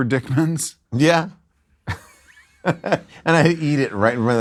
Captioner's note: laughs